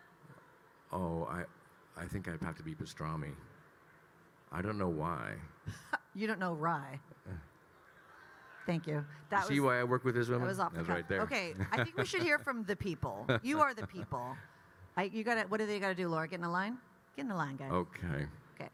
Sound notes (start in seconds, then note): 11.5 Kyle laughing